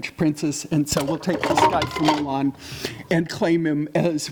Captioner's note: water bottle clattering